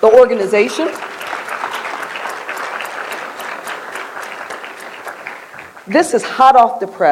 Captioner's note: applause